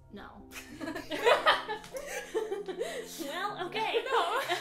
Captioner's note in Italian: risate